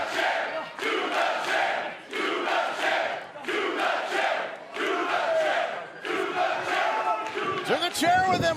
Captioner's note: fans chanting